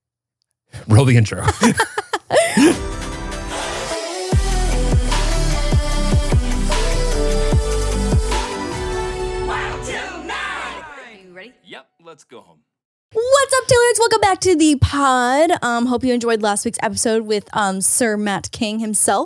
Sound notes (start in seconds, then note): 1.4 both laughing; 2.3 gentle upbeat music